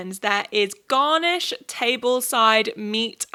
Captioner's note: none